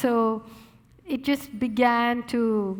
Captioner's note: none